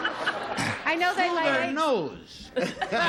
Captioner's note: laughs